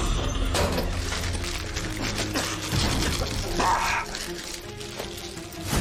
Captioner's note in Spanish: Tos y quejidos